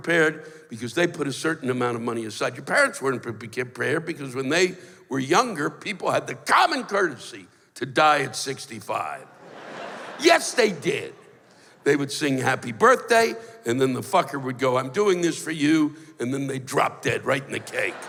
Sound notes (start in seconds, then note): 9.3 laughter